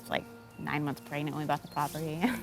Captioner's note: chuckles